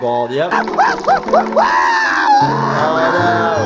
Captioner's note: Toothy yelling